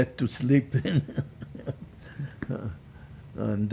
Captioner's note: laughing